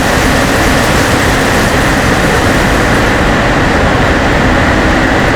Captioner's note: engine revving